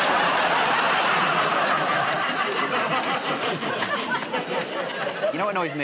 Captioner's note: laughter